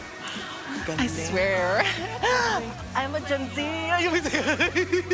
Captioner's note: gasps; both laughing